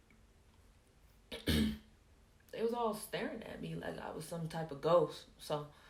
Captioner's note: clears throat